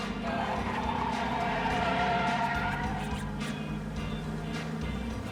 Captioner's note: tires squealing